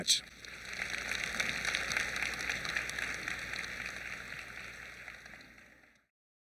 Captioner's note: applause